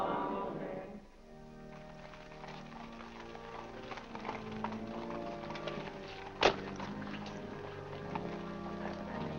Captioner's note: organ plays; hooves trotting; organ plays